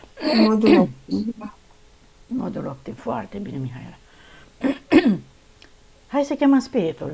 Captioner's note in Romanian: voce dreasă